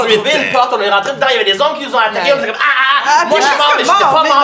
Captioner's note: karate shouts